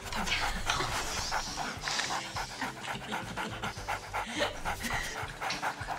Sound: laughter

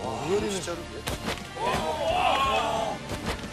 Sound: smack

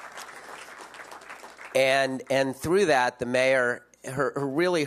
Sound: applause

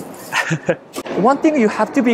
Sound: chuckles

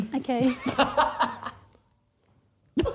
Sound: laughing

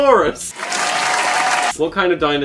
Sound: audience applauds

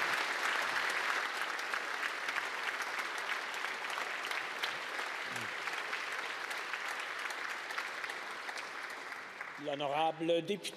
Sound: applause

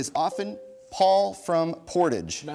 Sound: bell dings

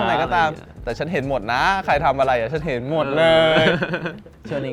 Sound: laughs

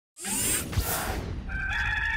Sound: dramatic sound; cock crowing

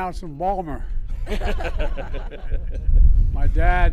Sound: laughter

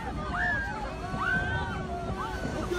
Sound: screams; yelling

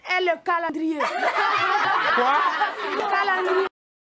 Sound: laughts

